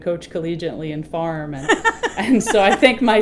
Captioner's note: woman laughing